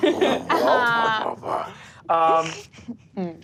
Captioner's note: all laugh